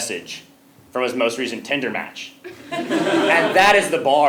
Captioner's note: laugh